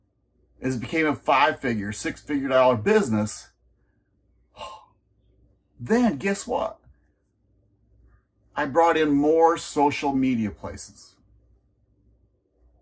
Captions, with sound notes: as it became a five-figure/six-figure dollar business, (sighs) then guess what? I brought in more social media places.